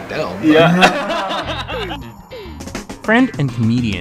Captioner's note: chuckles